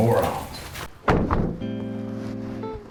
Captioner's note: car doors close almost in unison; footsteps